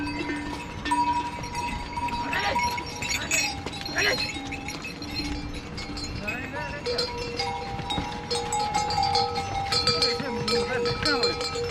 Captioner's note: cow bells